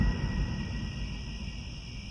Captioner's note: crickets